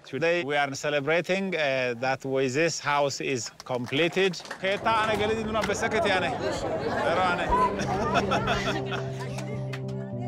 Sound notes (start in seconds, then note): 4.7 speaking in foreign language; 6.0 laughs